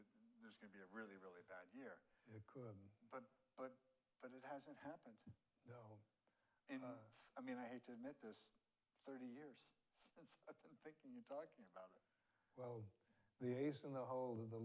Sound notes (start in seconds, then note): 11.1 chuckles